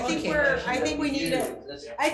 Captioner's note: members speaking in concert